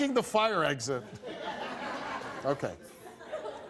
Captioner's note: laughs